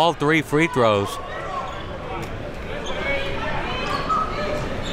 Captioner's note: crowd talking